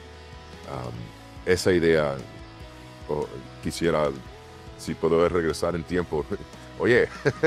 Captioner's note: laugh